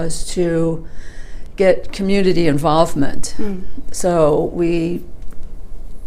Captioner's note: murmurs, “mmm” as a finger goes in front of the camera